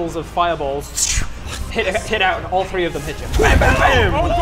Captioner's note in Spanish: szzrrhm